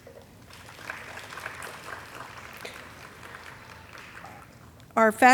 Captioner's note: audience clapping